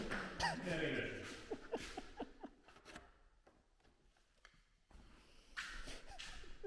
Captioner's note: laughs